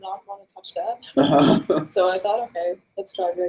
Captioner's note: laughs